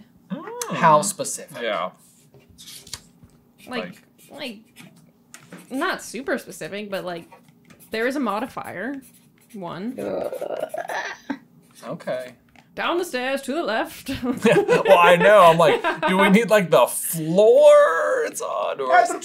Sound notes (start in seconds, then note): 10.0 gllllblah's in discomfort